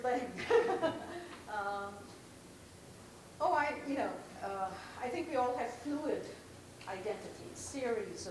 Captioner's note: laughs